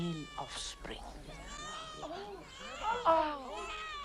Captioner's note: baby crying; crowd murmuring